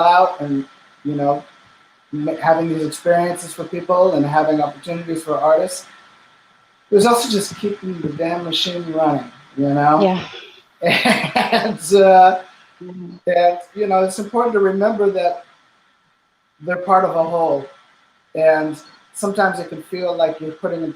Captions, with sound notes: and, you know, having new experiences for people and having opportunities for artists, it was also just keeping the damn machine running, you know? - Yeah. (laughing) - And so, you know, it's important to remember that they're part of a whole, and sometimes it can feel like you're putting